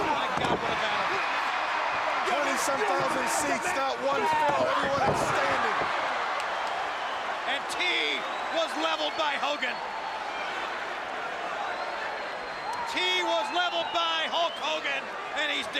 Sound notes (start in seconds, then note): 0.0 crowd cheering; 7.3 crowd cheering